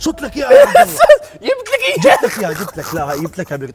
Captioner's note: Jordanian accent